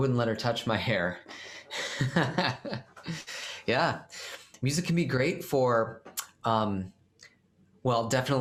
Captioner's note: laughter